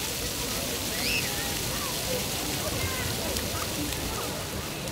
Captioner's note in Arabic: رذاذ الماء